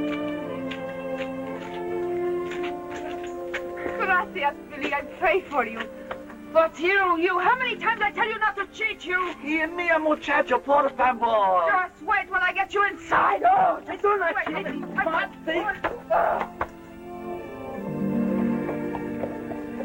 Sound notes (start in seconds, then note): 9.1 Spanish spoken audio; 13.4 Spanish spoken audio